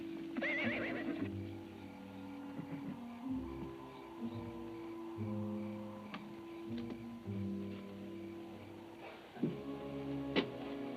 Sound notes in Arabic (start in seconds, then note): 0.4 صهيل الحصان; 2.2 موسيقى متوترة